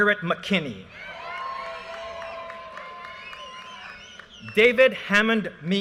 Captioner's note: audience cheers and applause